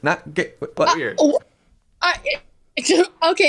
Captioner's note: stuttering